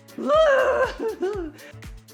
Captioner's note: groans; upbeat music